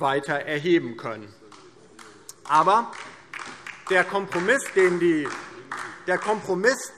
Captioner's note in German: Beifall DIE LINKE